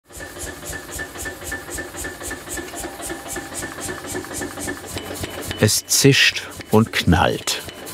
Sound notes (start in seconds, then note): 2.6 loud rattling